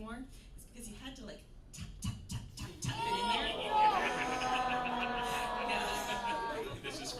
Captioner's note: audience goaning in sympathy